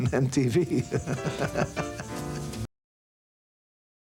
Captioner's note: laughter